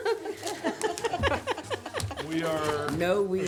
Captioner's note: laughing